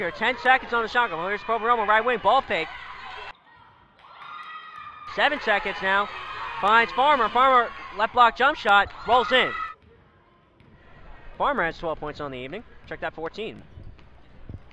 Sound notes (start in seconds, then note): 5.0 crowd talking and yelling